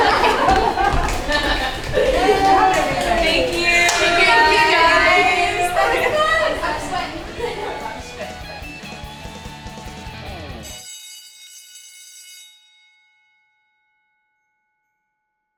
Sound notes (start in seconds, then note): 0.1 group chattering; 7.3 laughing; 8.7 bright upbeat music; 10.6 bell rings